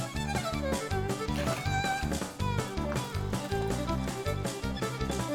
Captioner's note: water splashing